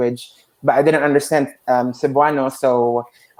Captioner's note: speaks in foreign language